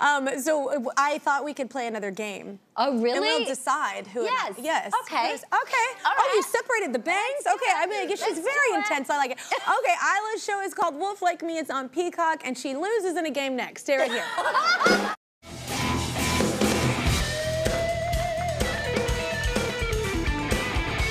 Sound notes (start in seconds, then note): 14.0 laughs